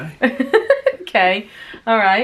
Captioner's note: laughing